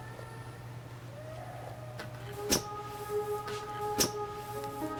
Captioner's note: muffled crying